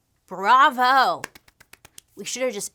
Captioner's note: claps